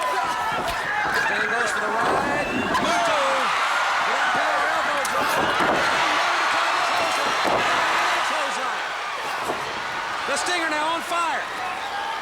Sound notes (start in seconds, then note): 3.4 commentators exclaim; 4.3 crowd cheers